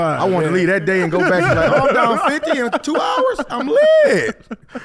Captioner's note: laughs